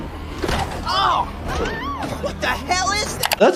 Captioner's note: people exclaiming